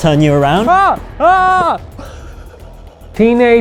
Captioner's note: screaming